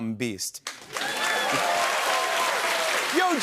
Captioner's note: cheers and applause